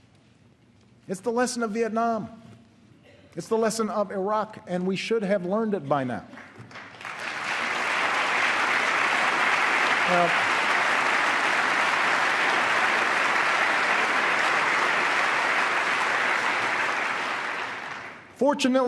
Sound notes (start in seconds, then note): 11.6 applause